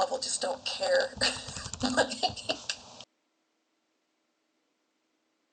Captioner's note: laughing